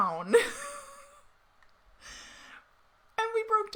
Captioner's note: laughing